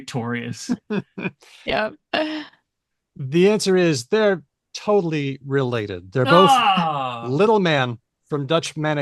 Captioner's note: groans